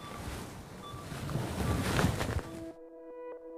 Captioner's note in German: Leises Piepen; Sanfte, sphärische Musik